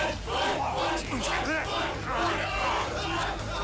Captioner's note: crowd; men groaning